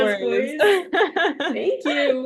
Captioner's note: laughter